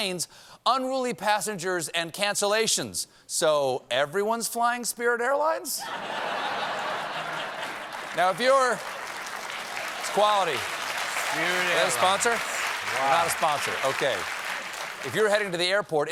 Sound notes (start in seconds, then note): 5.8 laughter; 7.7 applause